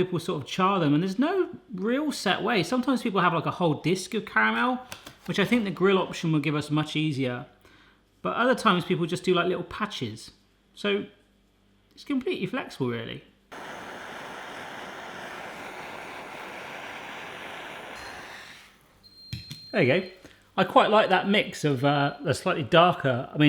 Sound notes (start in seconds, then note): 13.5 torch hissing; 19.2 oven beeping